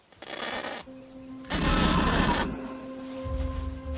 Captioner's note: kakapo cawing